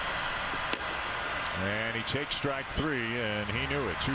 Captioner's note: cheering and Applause; applause